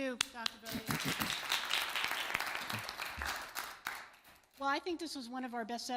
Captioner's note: applause